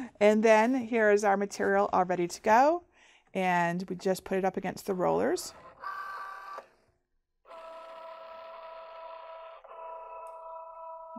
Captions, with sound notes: And then here is our material all ready to go. And we just put it up against the rollers. (machine whirring)